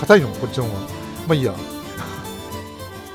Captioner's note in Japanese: 笑い